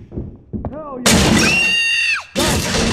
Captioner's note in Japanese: 叫び声